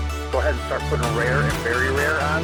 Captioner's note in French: voix-off masculine